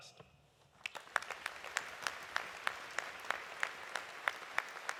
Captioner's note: audience applauding